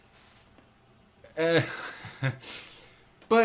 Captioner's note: laugh